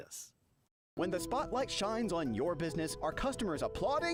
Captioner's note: voiceover